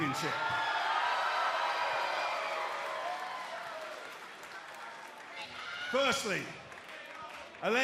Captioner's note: cheers and applause